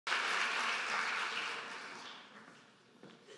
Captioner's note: applause